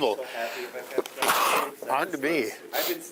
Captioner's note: sneezing